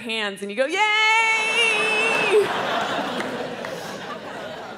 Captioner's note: crowd laughs